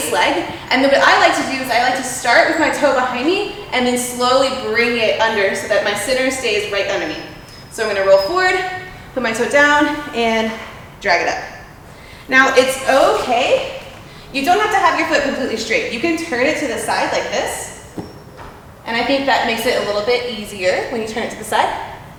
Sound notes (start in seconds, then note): none